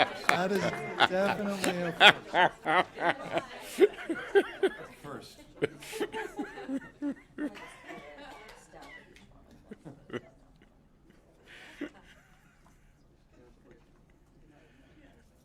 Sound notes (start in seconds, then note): 4.1 laughter